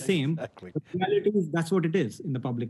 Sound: chuckles

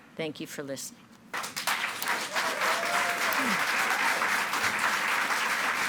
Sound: audience cheering and clapping

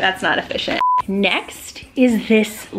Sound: beep

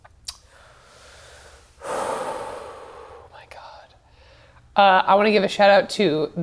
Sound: sighs

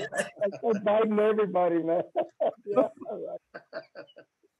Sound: laughter

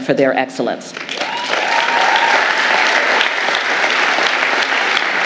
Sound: audience applauding

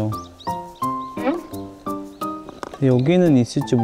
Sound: rummaging

